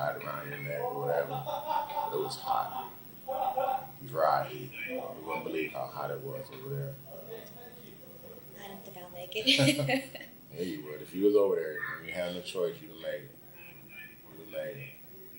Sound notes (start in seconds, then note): 1.0 laughter in the background; 9.4 both laugh